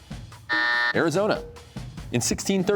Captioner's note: buzzer sounds